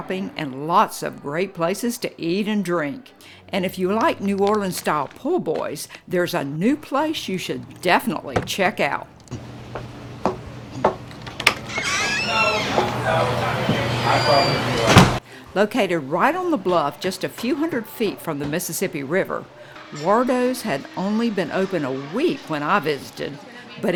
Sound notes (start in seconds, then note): 10.8 door squeaking; 12.9 patrons chattering